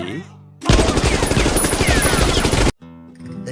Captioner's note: random Gun Shoots